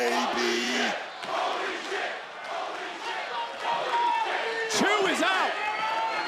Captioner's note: crowd chants "holy shit"